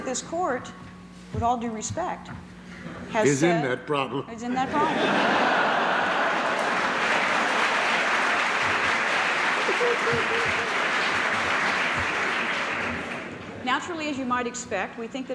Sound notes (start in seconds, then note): 4.6 laughter; 7.2 applause